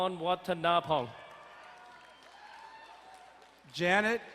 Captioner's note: crowd cheering and applauding